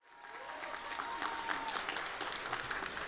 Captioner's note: applause